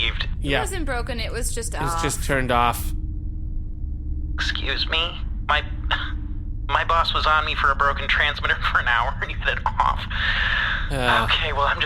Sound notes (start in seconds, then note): 5.8 scoffs; 10.0 PLECK sighs/groans??